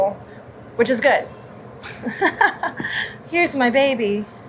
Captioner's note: chuckles